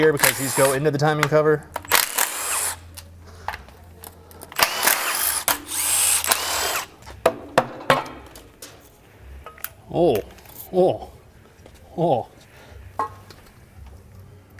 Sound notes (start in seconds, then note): 1.8 drills whirring; 7.1 hammer bangs